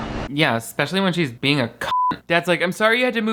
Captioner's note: beep